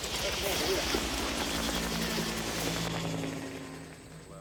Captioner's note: helicopter flying overhead